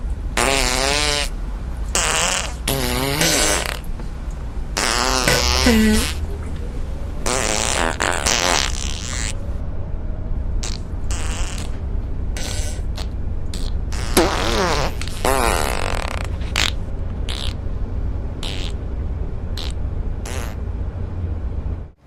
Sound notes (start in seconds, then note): 1.4 passengers farting in concert; 7.2 a genuinely shocking amount of farting; 13.5 man continues to fart uncontrollably; 18.1 passengers farting in background